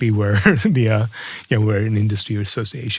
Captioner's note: laugh